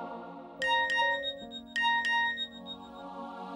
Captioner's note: message beep